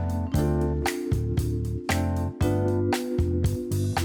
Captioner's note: snaps fingers